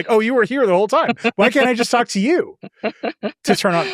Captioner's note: chuckles